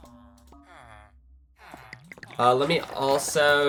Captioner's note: snorts